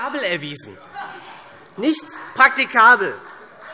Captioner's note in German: Heiterkeit SPD